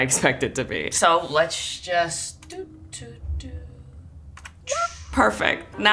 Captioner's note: humming